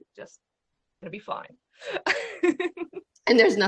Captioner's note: laughs